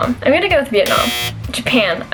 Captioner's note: buzzer